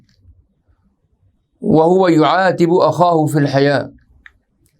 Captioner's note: arabic